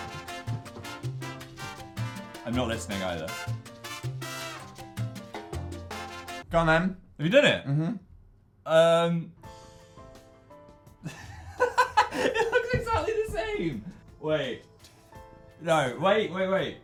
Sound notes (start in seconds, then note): 11.0 laughs; 14.7 whispers